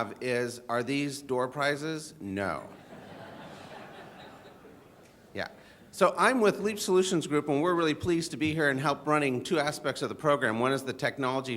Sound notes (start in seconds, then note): 2.7 audience chuckling